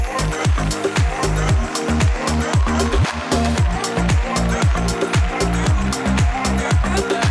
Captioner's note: applause